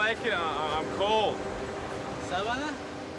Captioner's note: speaking spanish